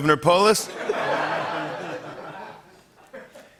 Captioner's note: laughter